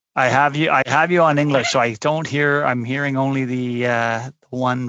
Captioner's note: laughter